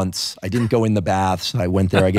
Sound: laughing

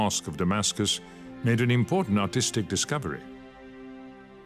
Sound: speaks French

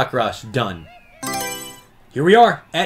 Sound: Mario Selection Sound

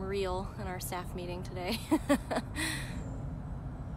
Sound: laughter

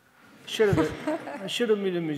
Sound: audience laughing

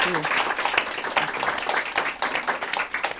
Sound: applause

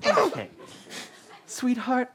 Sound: crying

